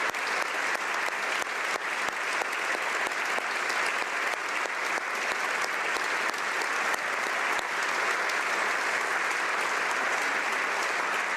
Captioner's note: applause